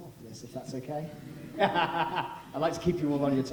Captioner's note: laughing